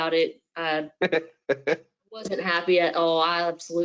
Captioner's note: laughs